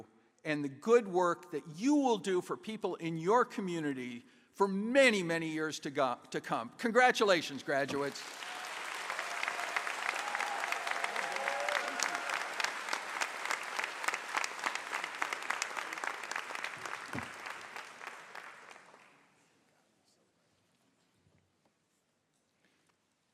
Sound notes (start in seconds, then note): 7.9 applause